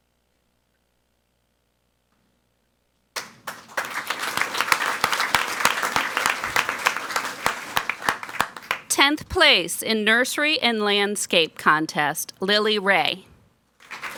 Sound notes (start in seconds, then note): 3.1 people clapping; 13.8 people clapping